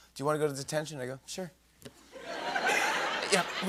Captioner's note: laughter